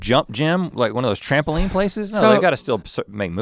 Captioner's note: Link sighs heavily